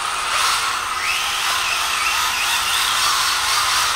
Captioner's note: motor whirs